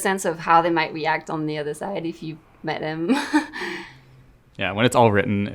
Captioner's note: laughs